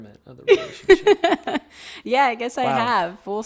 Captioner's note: laughing